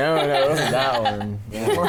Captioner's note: laughs